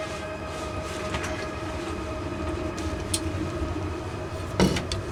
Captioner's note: light switch